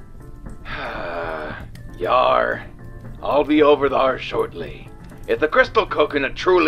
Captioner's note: sigh